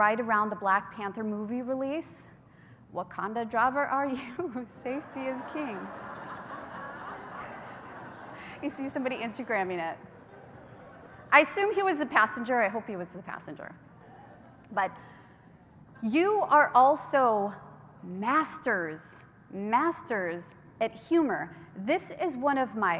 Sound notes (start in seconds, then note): 7.4 laughter